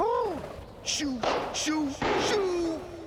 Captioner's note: balloons popping